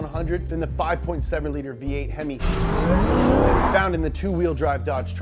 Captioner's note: engine revving